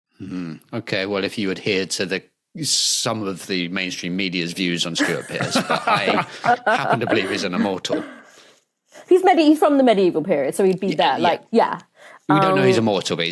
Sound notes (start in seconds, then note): 4.9 others laughing